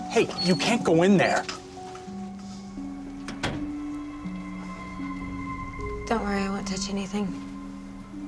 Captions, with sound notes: Hey, you can't go in there. (DOOR CLOSES) Don't worry. I won't touch anything.